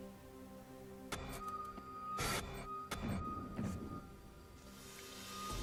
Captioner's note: electronic buzzing